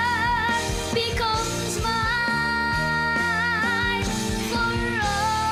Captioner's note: none